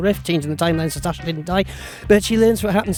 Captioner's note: breathes